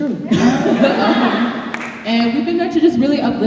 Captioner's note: laughter